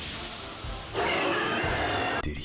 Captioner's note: lightning; roars